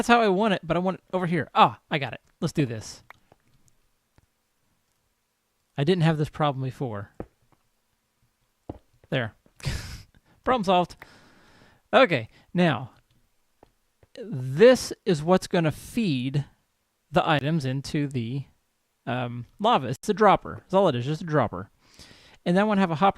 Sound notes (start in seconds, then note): 12.7 laughs